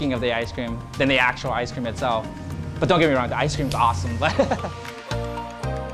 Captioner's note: laughs